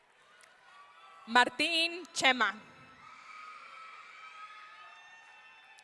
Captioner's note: audience cheering